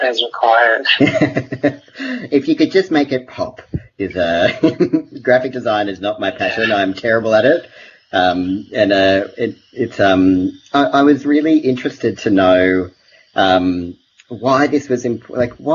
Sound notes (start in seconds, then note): 0.7 laughs